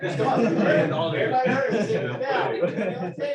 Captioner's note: laughter